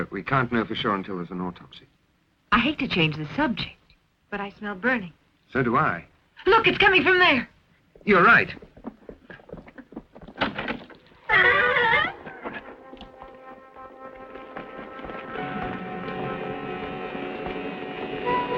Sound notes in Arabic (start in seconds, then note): 11.2 صرير الباب; 12.6 الموسيقى المشؤومة